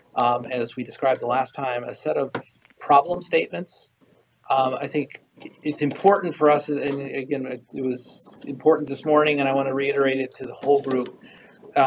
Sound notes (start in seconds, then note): 6.7 stutters